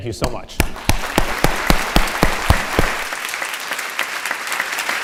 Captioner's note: audience applauding